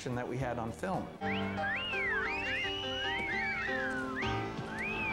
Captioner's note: whistles